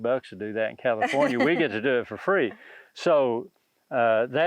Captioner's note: laughs